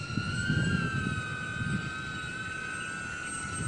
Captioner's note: sound of flying machine